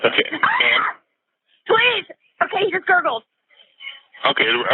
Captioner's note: shrieks